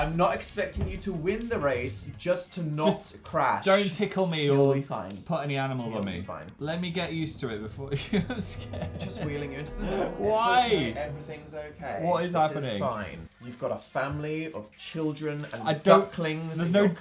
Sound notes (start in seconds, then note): 7.9 laughing